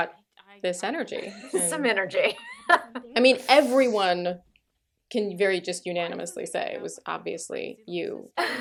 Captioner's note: laughter